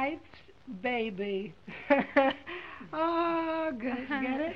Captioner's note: chuckles